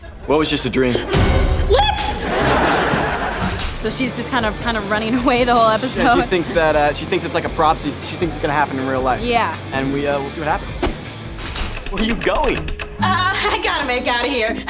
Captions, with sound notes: - What was just a dream? - Lips! [laughing] So she's just kind of running away the whole episode. She thinks it's like a prophecy, she thinks it's gonna happen in real life. - Yeah. - And we'll see what happens. Where are you going? Er... I gotta make outta here.